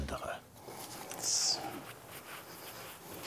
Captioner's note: quietly